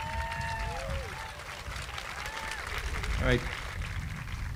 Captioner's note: audience applauding